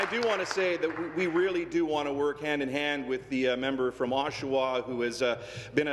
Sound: applause

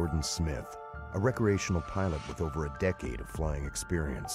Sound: voiceover

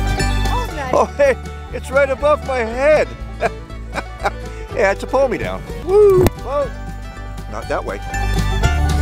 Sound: laughing

